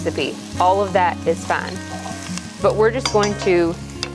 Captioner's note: food sizzling